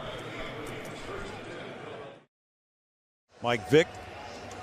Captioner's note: pa announcement